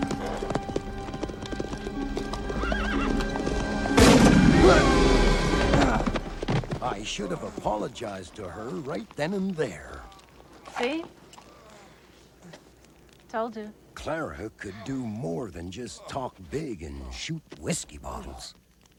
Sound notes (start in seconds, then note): 3.9 gunshot booms